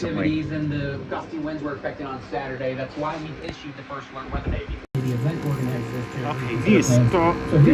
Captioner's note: TV continues to play in the background